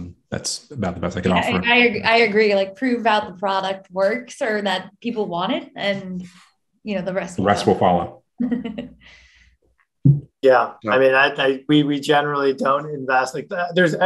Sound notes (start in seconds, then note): 8.4 chuckles